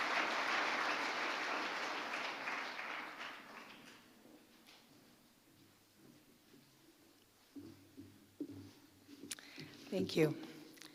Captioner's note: applause